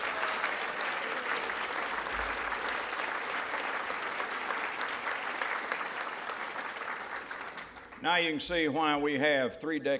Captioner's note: applause